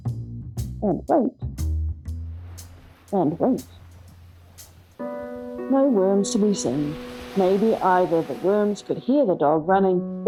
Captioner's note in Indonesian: ombak menghantam pantai